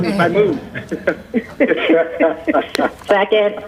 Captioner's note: laughing